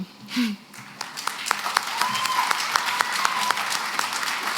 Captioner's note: applause